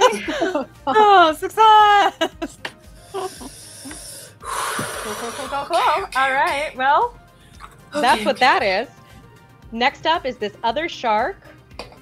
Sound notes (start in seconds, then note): 2.9 takes a deep breath